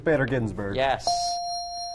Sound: ding

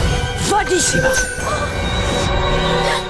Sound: ding

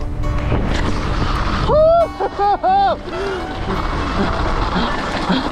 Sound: happy cheer

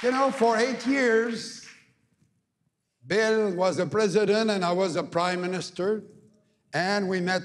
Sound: cheering and APPLAUSE

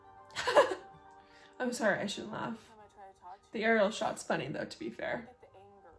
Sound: rude laughter; more rude laughter

